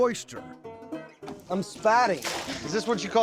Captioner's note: splash